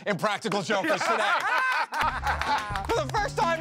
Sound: laughter

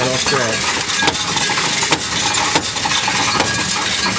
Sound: coins rattling

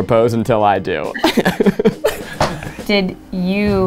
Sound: laughing

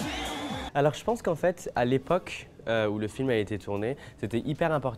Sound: speaking French

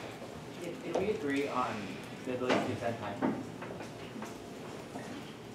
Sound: faint chatter

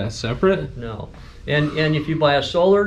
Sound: whistles

